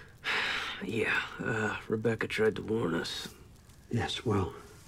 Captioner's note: sighs